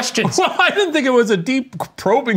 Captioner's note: laughs